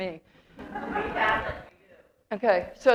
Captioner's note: audience laughter